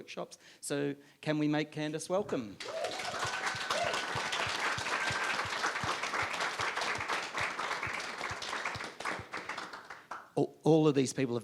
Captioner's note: audience applauds